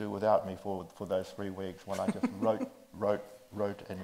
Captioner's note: chuckles